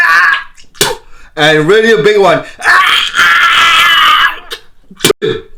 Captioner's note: coughing; coughing